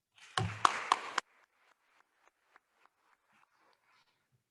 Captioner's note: attendees applauding